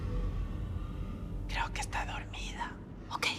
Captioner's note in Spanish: susurrando